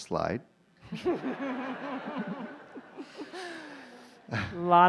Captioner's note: laughter